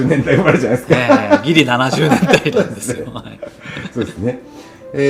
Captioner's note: laughs